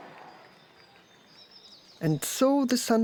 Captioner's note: birds chirping